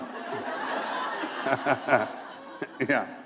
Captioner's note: laughter